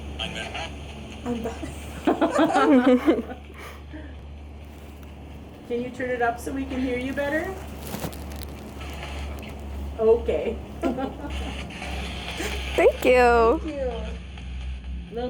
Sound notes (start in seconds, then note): 1.9 group laughing; 10.7 laughing